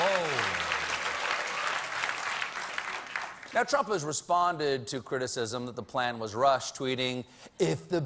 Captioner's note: applause